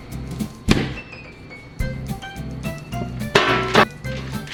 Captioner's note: package pops; tray clangs